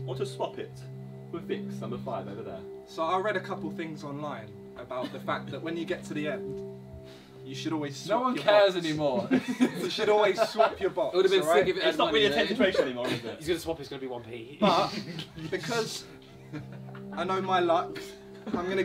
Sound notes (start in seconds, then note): 9.1 all laughing; 9.8 all chattering